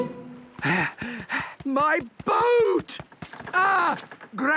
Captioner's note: panting